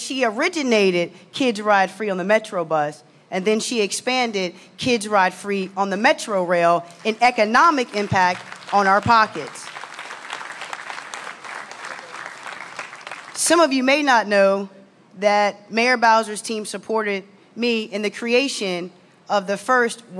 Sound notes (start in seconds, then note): 11.5 applause